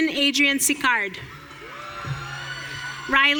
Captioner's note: audience cheering